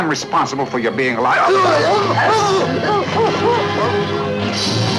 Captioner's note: gagging; suspenseful music